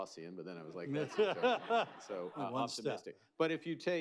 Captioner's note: laughter